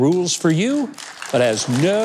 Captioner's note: audience clapping